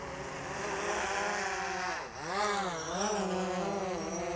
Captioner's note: whirring